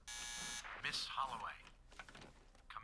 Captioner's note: buzzer